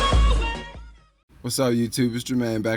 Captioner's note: voiceover